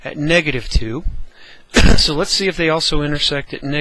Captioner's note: cough